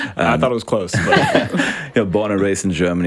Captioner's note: all laugh